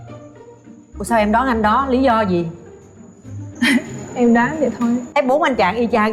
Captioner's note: laugh